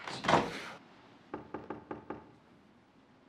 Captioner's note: knocking at door